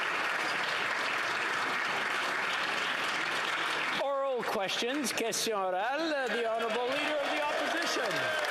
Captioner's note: some Applause